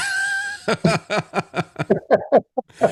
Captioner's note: laughing